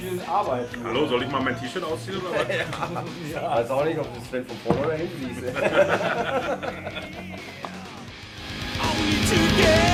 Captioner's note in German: lachen